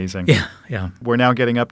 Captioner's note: chuckling